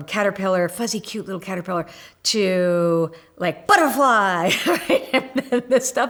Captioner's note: laugh